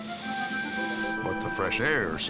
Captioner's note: inhales